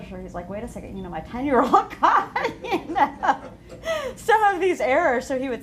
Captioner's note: laughter